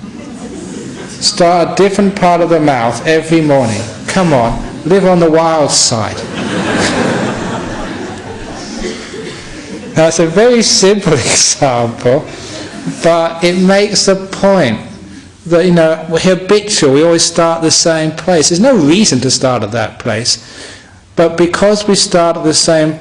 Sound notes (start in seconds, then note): 6.1 laughter